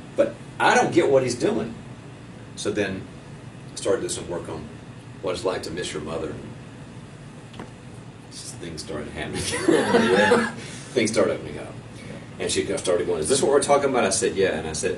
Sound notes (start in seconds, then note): 9.5 laughing